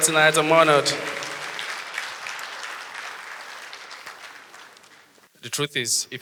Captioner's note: audience applause